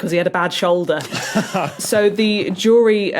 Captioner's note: chuckles